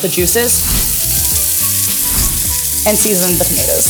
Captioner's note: pan sizzling; instructions whooshing